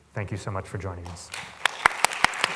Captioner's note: applause